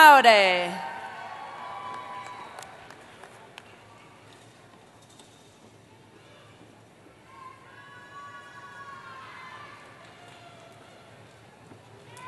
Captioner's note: cheering